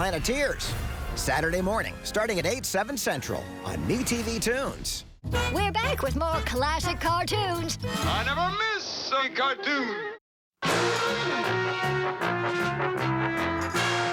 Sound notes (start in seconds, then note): 9.0 laughs